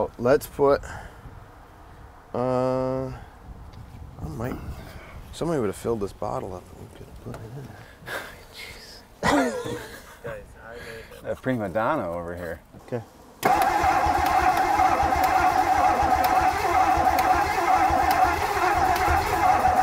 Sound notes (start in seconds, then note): 9.2 laughs; 13.2 vehicle engine humming; 13.4 vehicle engine clicking